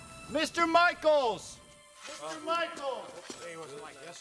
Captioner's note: men Chattering